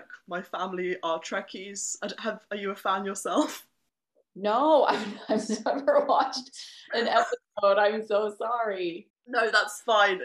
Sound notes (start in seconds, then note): 4.9 laughter